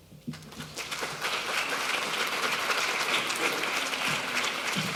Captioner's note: audience applauding